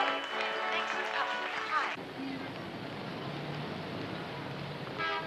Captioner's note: Tepuk Tangan